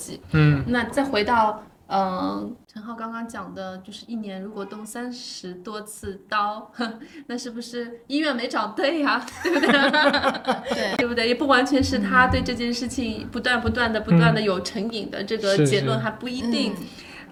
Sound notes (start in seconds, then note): 9.2 laughter